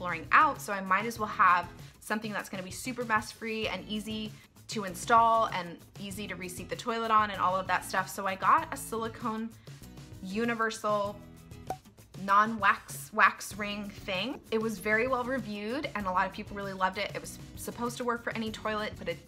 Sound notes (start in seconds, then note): 11.6 cork pop